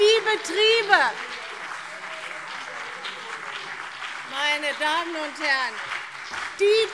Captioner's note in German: Beifall BÜNDNIS 90/DIE GRÜNEN und vereinzelt CDU - Zurufe - Glockenzeichen